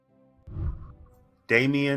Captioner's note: celebratory music; whooshing